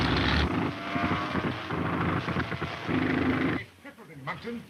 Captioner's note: plane engine sputtering